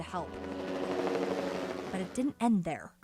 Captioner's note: helicopter rotor